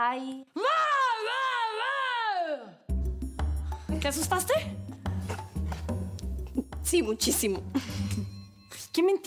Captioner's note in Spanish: gritos